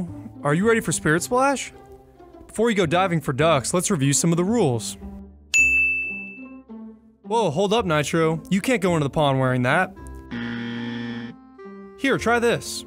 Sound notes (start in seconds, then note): 5.6 bell chimes; 10.3 buzzer dings